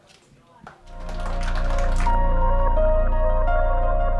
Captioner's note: applause